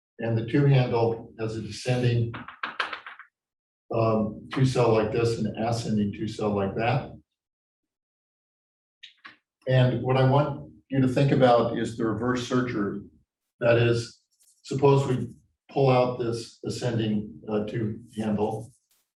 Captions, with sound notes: And the two handle as a descending (chalkboard tapping loudly) two cell like this and the ascending two cell like that. And what I want you to think about is the reverse surgery. That is suppose we pull out this ascending two handle.